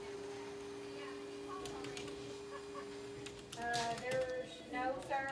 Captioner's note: vacuum whirring; people chattering